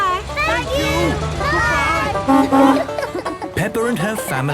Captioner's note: honking